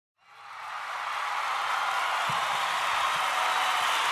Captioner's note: cheering